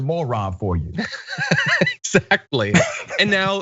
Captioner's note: laugh